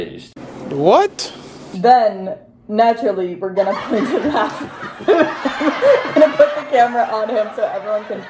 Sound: crowd laughter

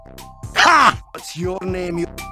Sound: happy Demoman/golem sounds

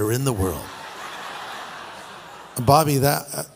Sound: laughter

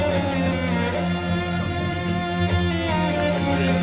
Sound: cheering

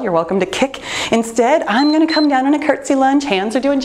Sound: timer beeps

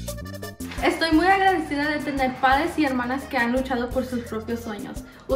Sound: speaks in foreign language

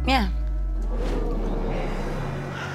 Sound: audience exclaims

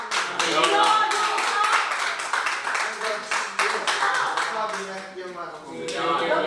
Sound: big applause

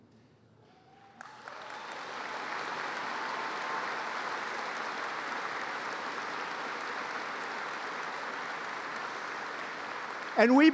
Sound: applause

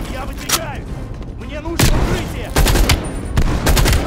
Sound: gunshots

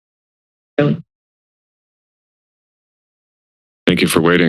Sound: silence

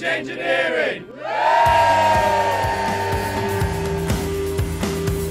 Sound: cheers

